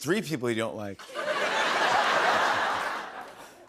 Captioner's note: laughter